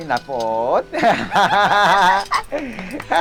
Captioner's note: both laughing